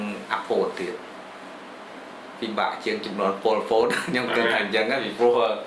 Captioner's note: laughs